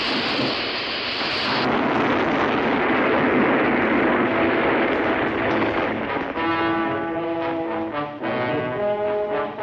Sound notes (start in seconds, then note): 0.0 dynamite explodes; 6.3 dramatic music